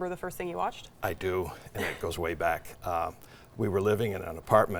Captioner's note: laughing